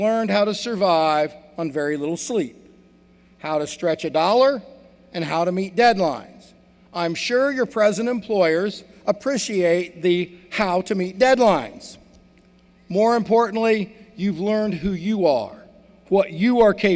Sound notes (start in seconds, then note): none